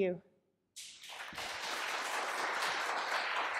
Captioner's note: applause